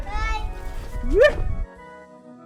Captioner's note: excited cheer